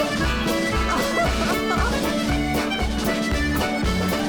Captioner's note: laughing; upbeat Scottish music